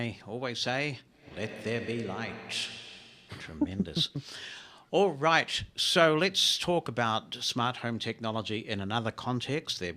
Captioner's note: voice distortion